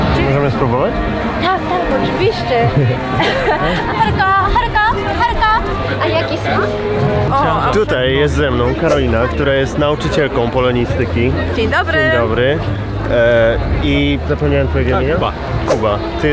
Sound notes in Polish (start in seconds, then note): 2.7 Śmiech